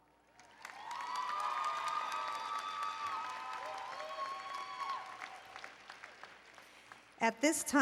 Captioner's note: applause and Cheering